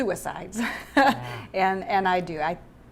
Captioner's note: laughing